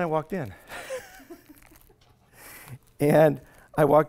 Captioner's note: laughs